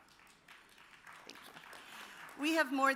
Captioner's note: audience applauds